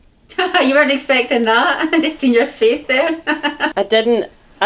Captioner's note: laughs